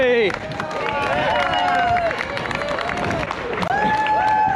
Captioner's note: clapping